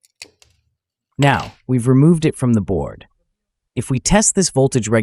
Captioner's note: de-soldering Sound